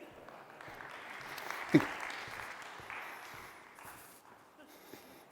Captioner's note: audience applauding